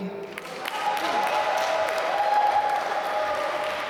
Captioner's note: applause